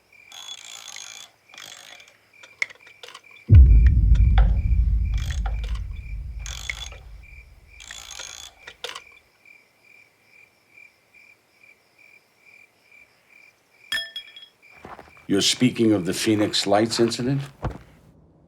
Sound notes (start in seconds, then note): 0.2 metal cranking; 3.5 ominous music; 10.2 crickets chirping; 13.9 metal clinking